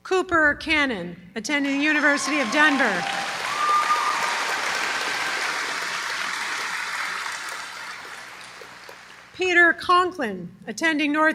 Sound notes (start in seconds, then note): 1.6 applause